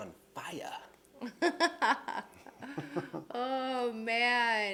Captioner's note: laughing